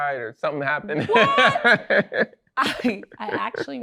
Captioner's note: laughs